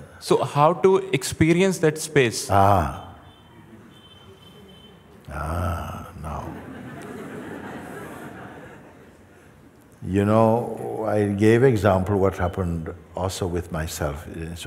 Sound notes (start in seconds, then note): 6.3 laughter